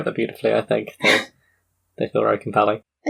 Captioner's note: laughs